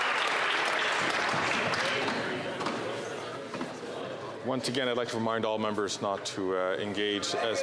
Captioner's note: some Applause